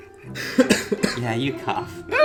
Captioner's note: laughing; coughing